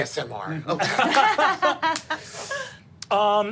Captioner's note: group laughing